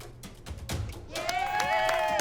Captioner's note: clapping